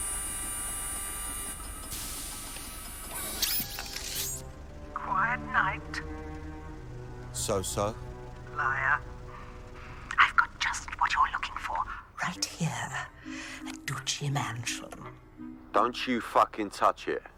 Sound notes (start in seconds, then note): none